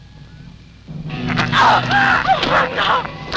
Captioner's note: gasping; yelling